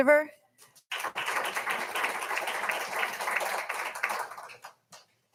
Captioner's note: all applauding